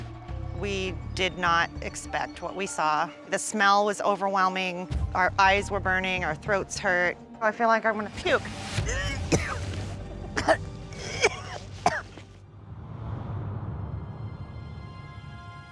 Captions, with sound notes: We did not expect what we saw. The smell was overwhelming. Our eyes were burning. Our throats hurt. I feel like I want to puke. [retching]